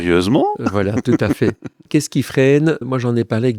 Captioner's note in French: Rires